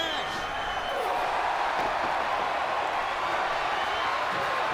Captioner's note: crowd cheering